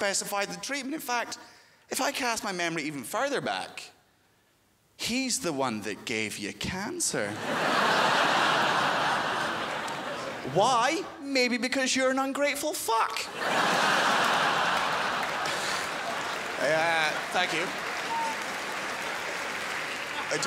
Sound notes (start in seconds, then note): 7.3 crowd laughs; 13.2 crowd laughs